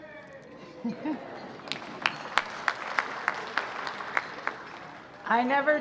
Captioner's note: crowd cheering and applauding